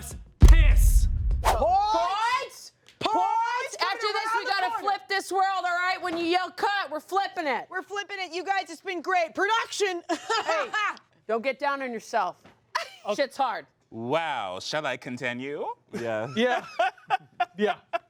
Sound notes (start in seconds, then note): 10.1 laughs